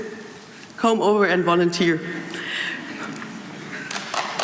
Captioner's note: applause